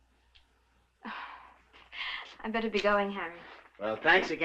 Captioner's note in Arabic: تنهد